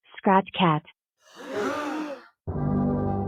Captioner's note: gasps